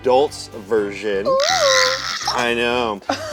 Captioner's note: squealing